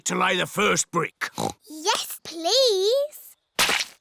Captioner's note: oinks